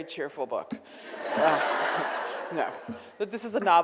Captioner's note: audience laughs